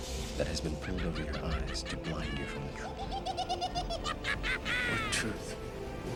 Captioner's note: mad scientist laughter